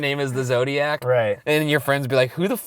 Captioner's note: voiceover